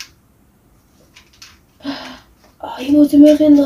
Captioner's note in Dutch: dramatische ademhaling